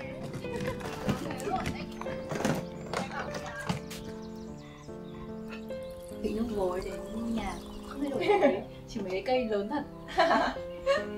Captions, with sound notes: From lid eugenia tea to the house, all remain unchanged, except for… the trees and plants (laugh)